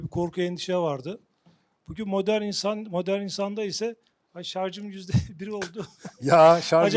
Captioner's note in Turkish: kahkaha